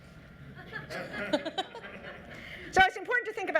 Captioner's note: laughing